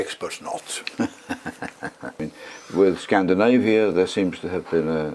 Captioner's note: laugh